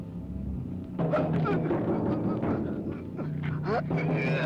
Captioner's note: groaning